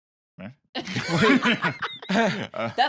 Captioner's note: laughs